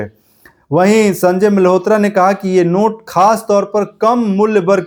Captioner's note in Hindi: नाक से की जाने वाली आवाज़